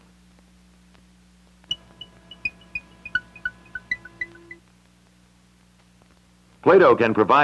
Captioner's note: Electronic audio effects